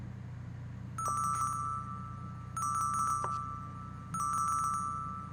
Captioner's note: phone rings